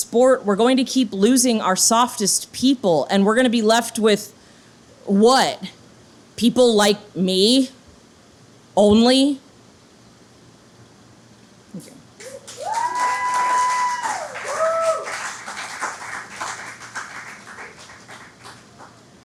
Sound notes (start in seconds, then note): 12.2 audience applauding